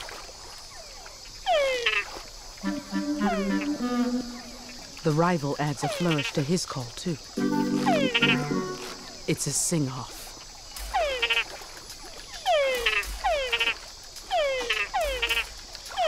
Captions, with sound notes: (frog groaning) The rival adds a flourish to his call too. (frog groaning) It's a sing-off. (frogs groaning)